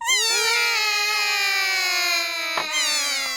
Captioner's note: all cry